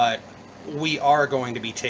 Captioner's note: none